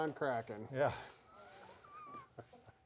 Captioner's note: laughs